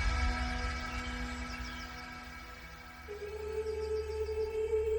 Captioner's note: birds chirping